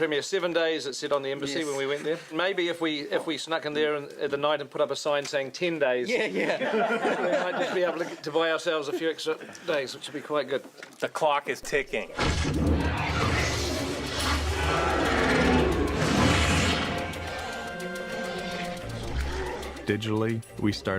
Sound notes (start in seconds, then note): 15.4 troll groans and sound effects